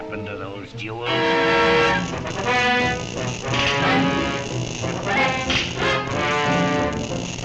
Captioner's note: dramatic music; electricity zaps